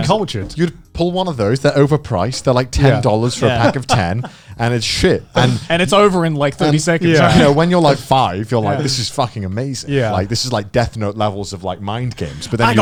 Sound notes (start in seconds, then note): 5.4 chuckling